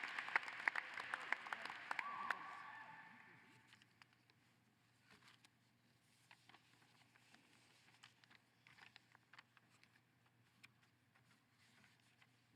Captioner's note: applause